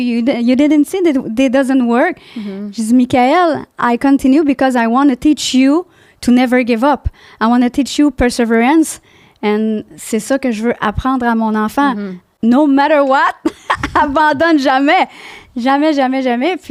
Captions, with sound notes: You didn't see that it doesn't work. - (in french) I said, Mikael I continue because I wanna teach you to never give up. I wanna teach you perseverance - (in french) and that's what I want to teach my child no matter what. - (in french) never give up, never ever ever